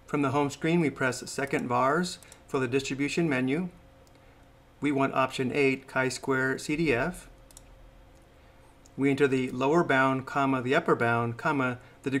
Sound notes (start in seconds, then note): 7.4 mouse clicks